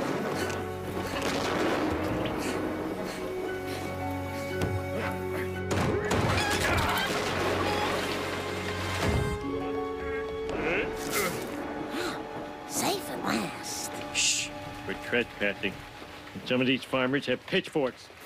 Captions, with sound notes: (panting) (grunting) (chickens squawking) (grunting) (panting in relief) Safe at last. Shh! We're trespassing. And some of these farmers have pitchforks.